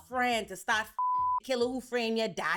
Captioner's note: beep